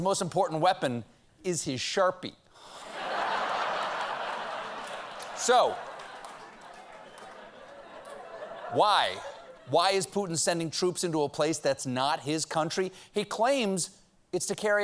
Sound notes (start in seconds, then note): 2.8 laughter